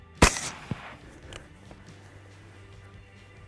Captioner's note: gunshot